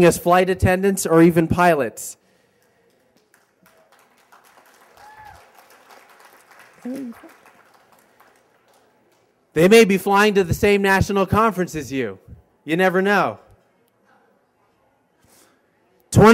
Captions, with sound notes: AS FLIGHT ATTENDANTS, OR EVEN PILOTS. [applause] THEY MAY BE FLYING TO THE SAME NATIONAL CONFERENCE AS YOU, YOU NEVER KNOW.